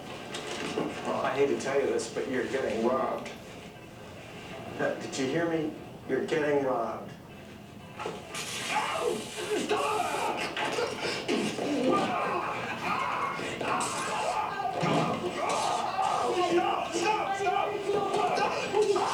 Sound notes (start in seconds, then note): 7.6 customer yelps; 8.4 yelling